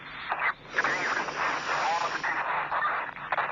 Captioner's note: inhale